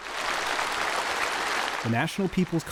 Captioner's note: applause